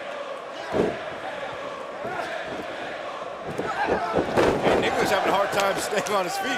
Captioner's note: crowd cheering